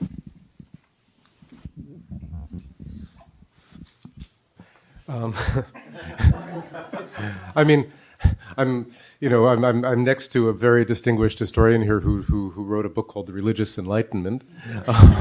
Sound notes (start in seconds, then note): 5.3 professor chuckles; 5.7 audience laughs; 14.7 audience laughs